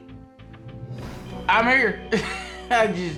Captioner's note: laughing